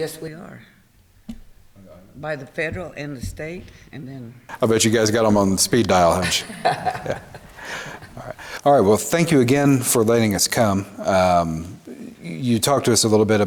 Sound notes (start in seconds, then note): 6.0 all laugh